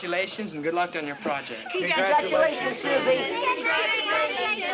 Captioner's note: group chatter